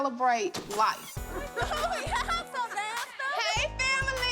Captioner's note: giggles